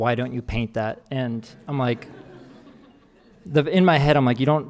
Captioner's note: audience laughing